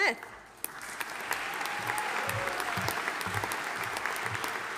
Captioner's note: audience applauding